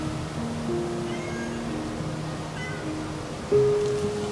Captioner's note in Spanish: El gato maúlla